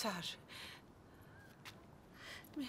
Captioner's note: breathing heavily